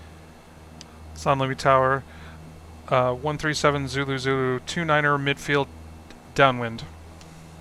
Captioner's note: me on radio